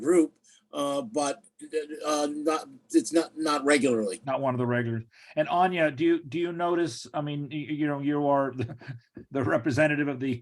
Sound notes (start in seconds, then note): 8.5 chuckles